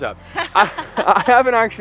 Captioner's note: laughter